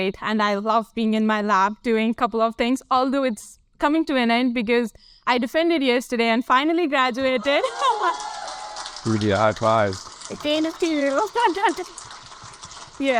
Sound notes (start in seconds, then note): 7.4 laughs; 7.4 audience applaud and cheer